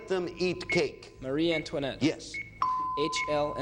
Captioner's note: bell dings